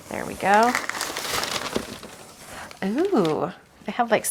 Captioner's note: paper crinkling